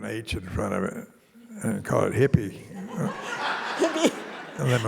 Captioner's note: audience laughing